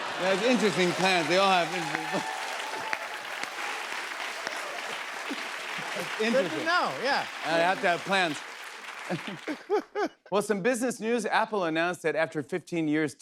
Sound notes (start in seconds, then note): 2.3 cheers and applause; 9.1 applause